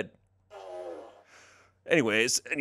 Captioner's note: fart machine farts